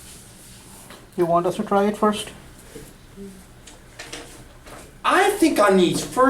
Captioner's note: voiceover